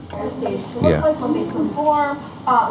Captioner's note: voiceover